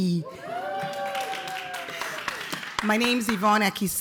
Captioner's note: audience cheering